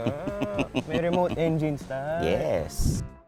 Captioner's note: laughing